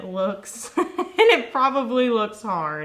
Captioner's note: laughing